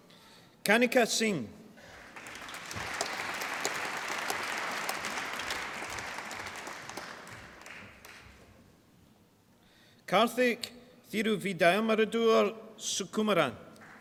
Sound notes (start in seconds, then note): 1.8 applause